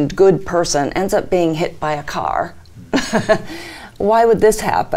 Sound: chuckles

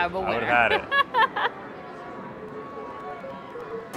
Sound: laughs

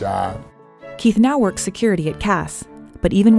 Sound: voiceover

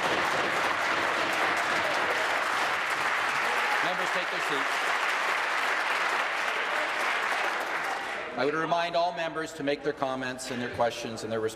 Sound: applause

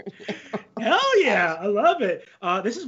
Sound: laughs

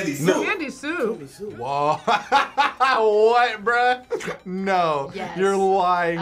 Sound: laughs

